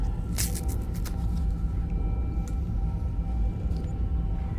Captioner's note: bandage ripping